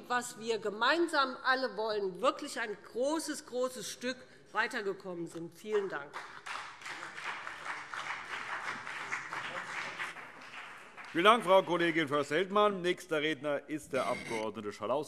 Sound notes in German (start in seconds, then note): 5.8 Beifall BÜNDNIS 90/DIE GRÜNEN und vereinzelt CDU